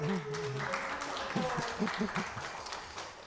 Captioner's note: applause